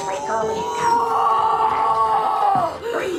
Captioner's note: screaming